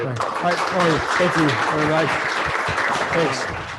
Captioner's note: applause